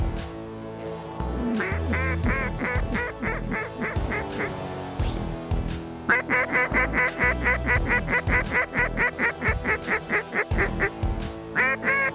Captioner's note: duck calls